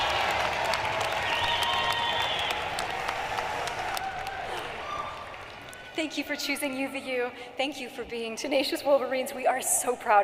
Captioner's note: cheering and applause